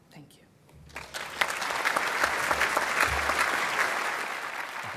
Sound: applause

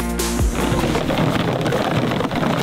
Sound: decoys clacking together

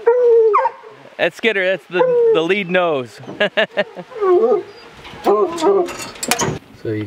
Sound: chuckles

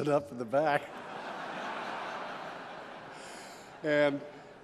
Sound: laughter

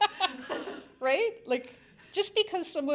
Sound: laugh

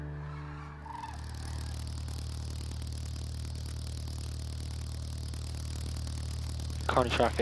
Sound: propeller noise

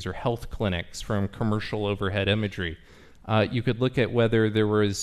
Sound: none

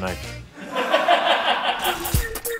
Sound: laughing

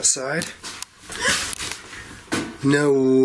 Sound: gasps

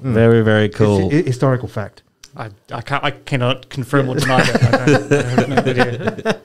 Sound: laughter

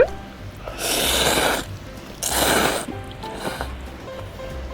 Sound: slurping noodles X 7

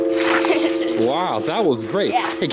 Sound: laughing

